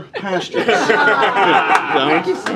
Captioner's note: laughter